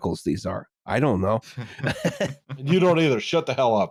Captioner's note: laughter